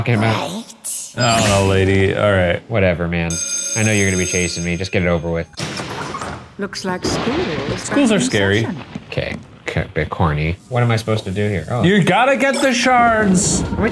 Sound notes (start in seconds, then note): 3.3 school bell ringing